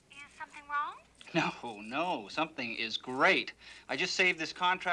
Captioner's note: chuckles